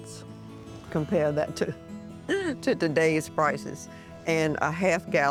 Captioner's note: chuckling